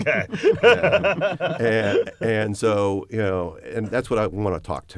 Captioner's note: laughter